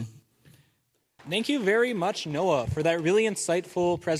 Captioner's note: applause